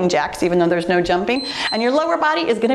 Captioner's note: timer beeps